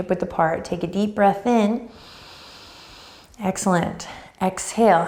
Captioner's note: breathing deeply